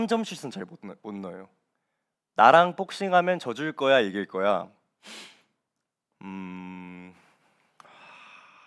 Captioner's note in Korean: 콧방귀